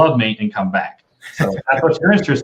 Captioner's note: laughter